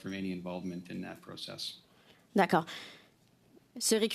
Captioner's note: speaking French